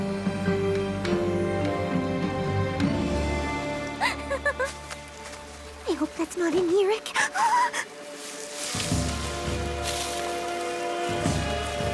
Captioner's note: rustling